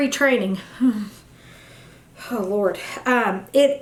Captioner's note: heavy breathes